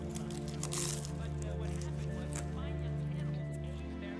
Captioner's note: Oliver crunching; gentle music